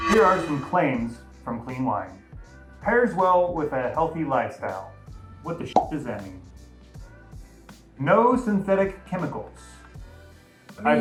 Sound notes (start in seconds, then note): 5.7 pop